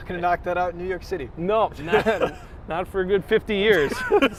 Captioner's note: laughs